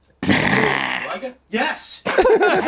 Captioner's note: Danny growls softly